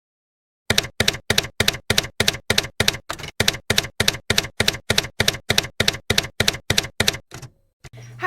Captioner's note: typewriter keys clacking